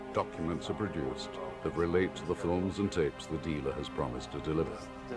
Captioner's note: man speaking in Russian